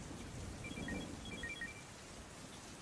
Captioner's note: telepon berdering